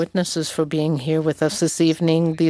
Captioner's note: speaking French